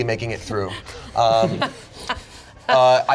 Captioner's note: laughs